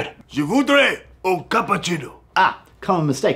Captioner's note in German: Französisch